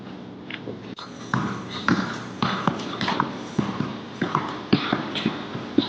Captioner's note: footsteps echoing